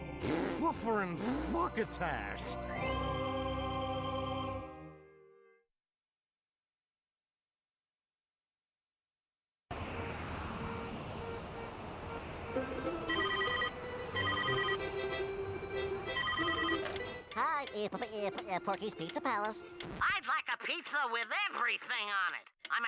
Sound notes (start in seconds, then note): 9.8 car horns honking; 13.1 ringing